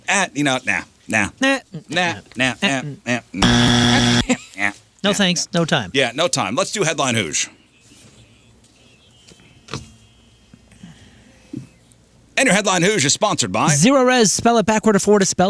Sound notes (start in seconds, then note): 3.4 buzzer